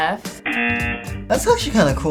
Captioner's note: buzzer rings